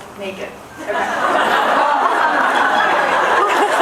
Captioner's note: laughs